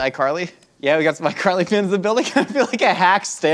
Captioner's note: laughs